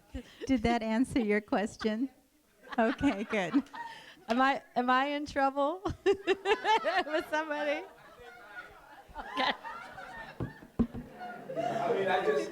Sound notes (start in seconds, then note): 0.0 laughs; 2.6 laughter; 5.8 laughter